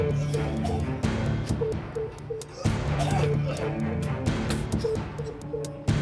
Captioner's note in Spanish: tijeras tose con asco